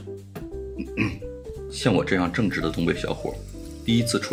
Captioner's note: ahem